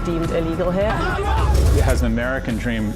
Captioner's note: angry yelling